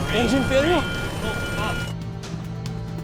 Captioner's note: alarms blares; automated Voice; suspenseful music